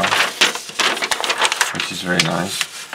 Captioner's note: paper rustling